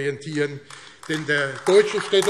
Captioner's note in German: Beifall AfD